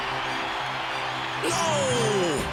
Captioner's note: cheering wildly